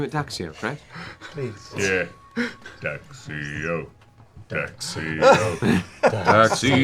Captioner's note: chants